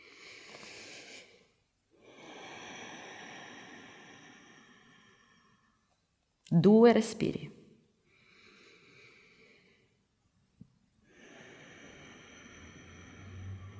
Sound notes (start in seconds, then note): 8.5 inhale-exhale